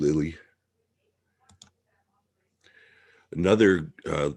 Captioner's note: mouse clicking